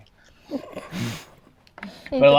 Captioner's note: chuckles